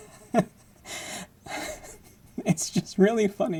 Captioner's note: laughing